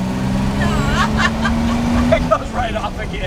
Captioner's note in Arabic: ضحك